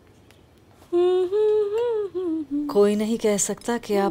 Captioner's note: Humming